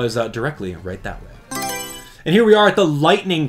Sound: Mario Selection Sound

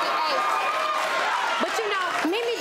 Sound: audience applauds

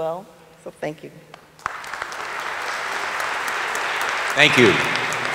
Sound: audience applauding

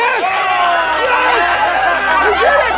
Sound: all cheering

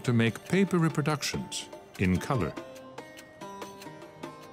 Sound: speaks French

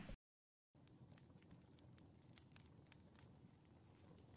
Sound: fire crackling

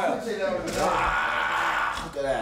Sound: yelling

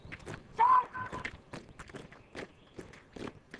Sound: shouting

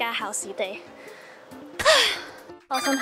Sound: sigh?

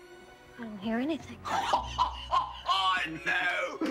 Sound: laughing

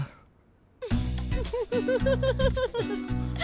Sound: giggling

